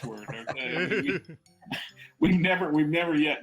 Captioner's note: laughter